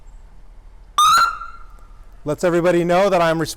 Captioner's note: siren yelps